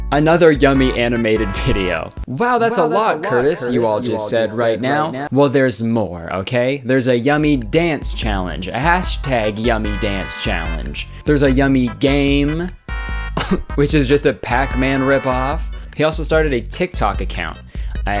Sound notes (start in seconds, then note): 2.6 echoed Sound effect